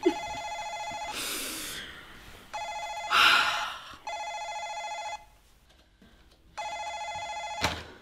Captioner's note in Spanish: Le sonner de la maison sonne sans s’arrêter